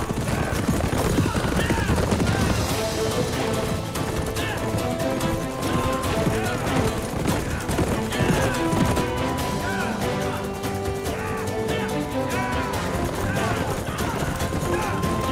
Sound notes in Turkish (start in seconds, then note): 1.7 At nalı sesleri; 12.1 Aksiyon müziği